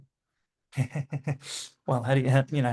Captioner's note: laughing